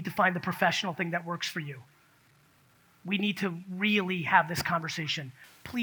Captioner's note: none